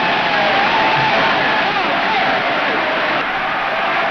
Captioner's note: crowd cheers